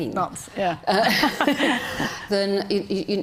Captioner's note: group laughing